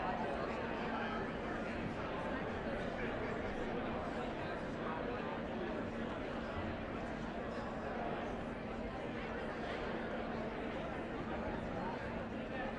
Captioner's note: indistinct chatter